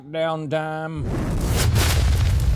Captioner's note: whooshing